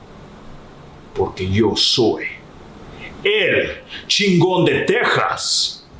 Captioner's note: speaks in foreign language